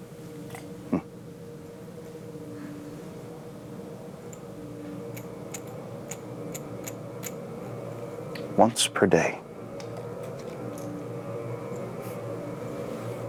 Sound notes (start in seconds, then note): none